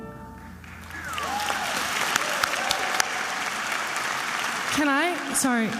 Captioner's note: attendees applauding and cheering